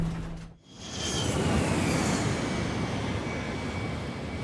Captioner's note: debris crashing